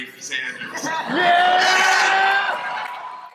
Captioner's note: crowd cheers yeah